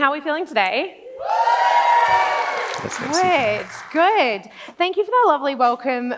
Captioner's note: clapping